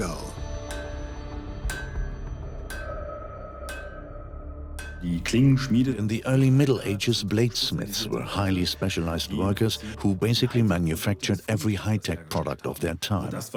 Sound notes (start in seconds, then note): 4.8 in German; 6.1 dubbed in English